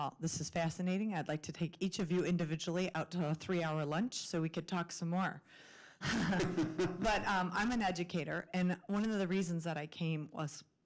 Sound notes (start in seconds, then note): 6.1 laughs